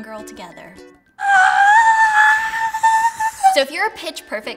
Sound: yelling

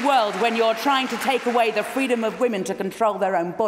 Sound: applause

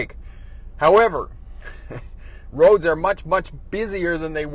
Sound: chuckles

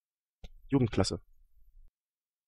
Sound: fast Pronunciation

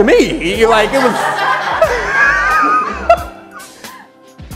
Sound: audience laughing

